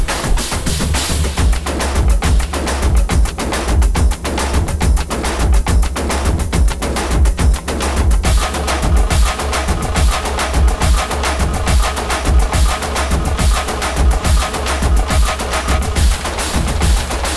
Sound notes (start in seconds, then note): none